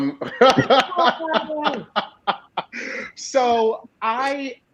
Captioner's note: laughing